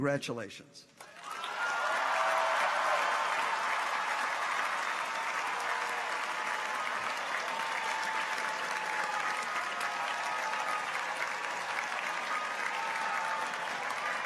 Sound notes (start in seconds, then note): 1.4 audience applauds; 1.4 people cheer